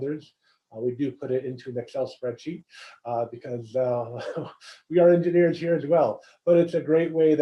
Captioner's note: laugh